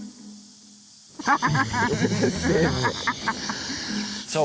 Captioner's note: laughter